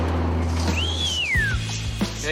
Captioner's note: whistles